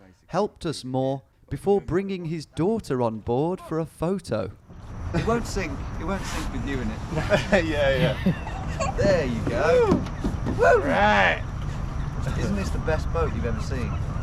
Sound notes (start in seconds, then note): 7.9 girl laughs